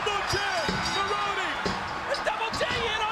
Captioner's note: bell rings